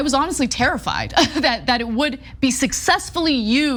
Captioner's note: laugh